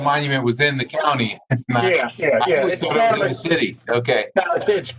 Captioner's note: laughter